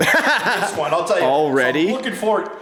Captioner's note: laughs